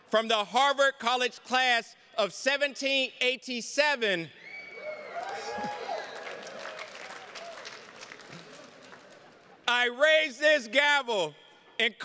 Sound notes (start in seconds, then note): 4.4 attendees cheers and claps; 4.5 chuckles